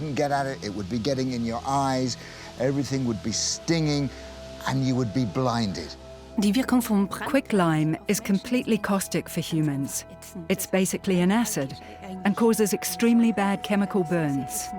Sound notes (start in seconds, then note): 5.7 speaks German; 7.0 dubbed in English